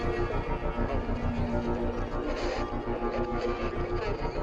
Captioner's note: static crackling